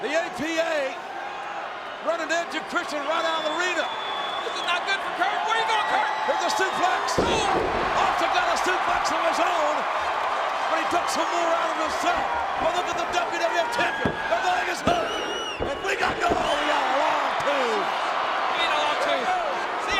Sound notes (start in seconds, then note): 7.3 audience cheers; 18.3 audience cheers